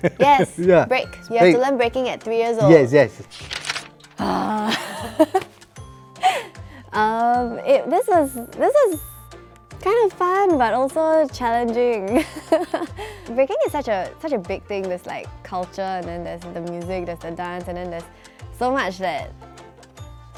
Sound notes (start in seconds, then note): 4.2 sighs; 12.2 laughs